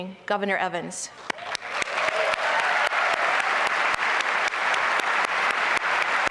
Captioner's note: applause